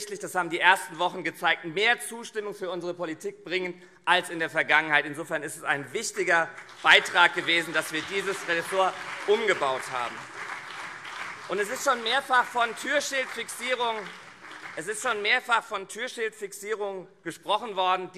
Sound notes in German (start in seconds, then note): 9.7 Beifall CDU und SPD